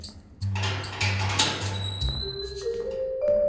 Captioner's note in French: Ouverture d'une porte métallique